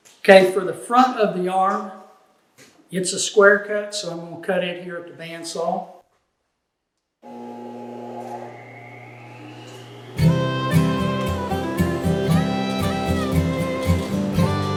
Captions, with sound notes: Okay, for the front of the arm, it's a square cut, so I'm gonna cut it here at the bandsaw. (saw humming) (upbeat country music)